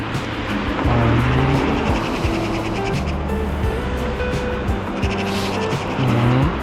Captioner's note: wind Blowing